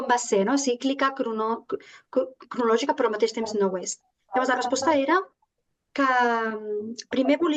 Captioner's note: continues speaking in Catalan